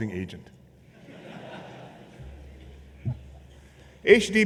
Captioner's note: laughter